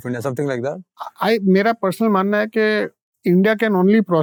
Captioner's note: speaking in Hindi